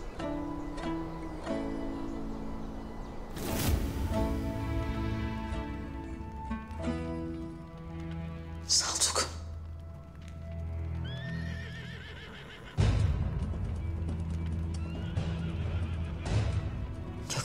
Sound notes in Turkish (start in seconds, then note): 11.0 At kişnemesi